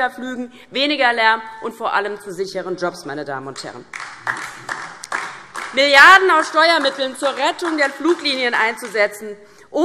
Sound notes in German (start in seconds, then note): 3.8 Beifall DIE LINKE